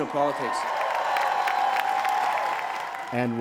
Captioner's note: crowd cheers